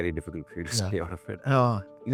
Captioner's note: chuckles